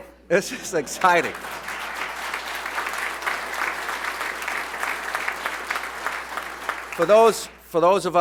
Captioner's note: applause